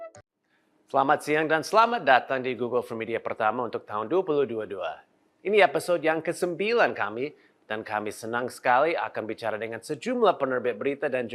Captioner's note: non-english speech